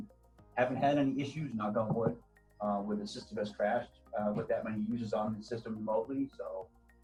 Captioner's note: knock on wood